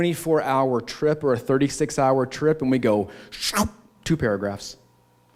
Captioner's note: shrinking noise